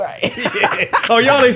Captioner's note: laughing